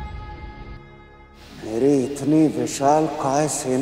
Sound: conch blows

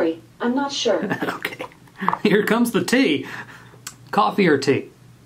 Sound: laughing

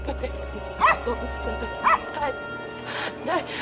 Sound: dog barks

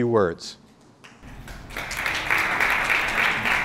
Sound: applause

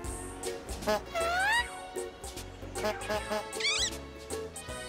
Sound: honks

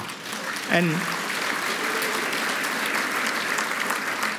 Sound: applause

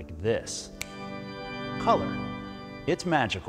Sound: snaps fingers

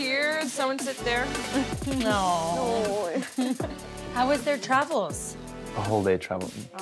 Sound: laugh

